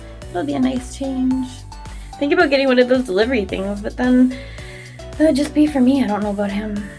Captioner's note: none